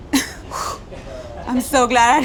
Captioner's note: exhales sharply